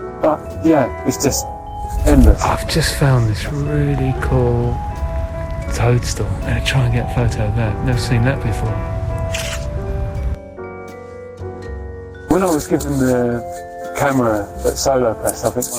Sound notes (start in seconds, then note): 9.3 camera snapping